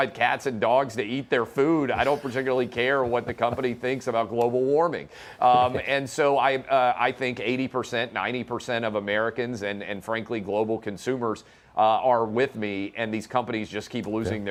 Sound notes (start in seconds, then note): 2.7 laughter